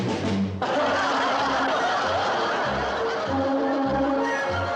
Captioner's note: audience laughing; mischievous orchestral music